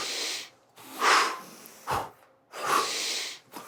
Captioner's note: sucks in air loudly; exhales loudly; sucks in air loudly